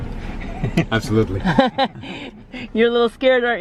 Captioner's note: laughing